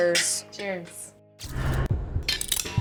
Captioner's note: glasses clinking